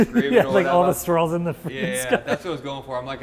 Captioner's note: laughing